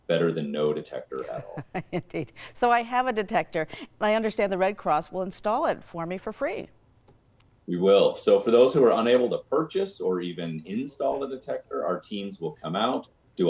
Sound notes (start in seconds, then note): 1.0 chuckles